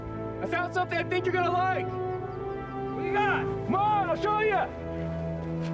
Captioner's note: none